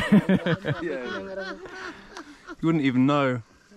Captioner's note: others laugh